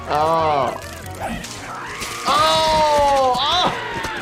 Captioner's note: Handy screaming